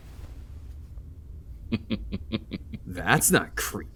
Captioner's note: laughs softly; sarcastic